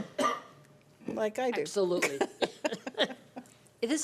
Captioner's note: laughing